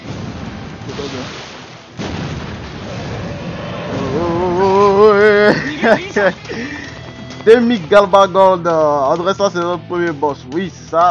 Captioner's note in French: rire